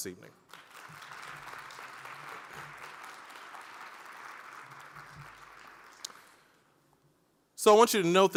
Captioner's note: applause